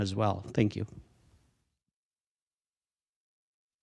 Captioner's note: audio cuts out